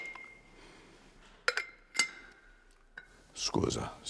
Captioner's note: filter cup clinks; speaks in Italian